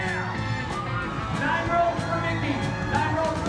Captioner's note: audience shouting